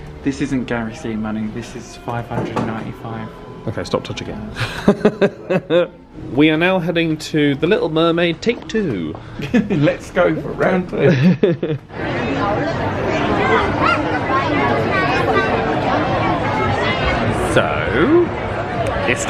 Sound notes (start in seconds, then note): 4.5 laughs; 11.7 guests chatter excitedly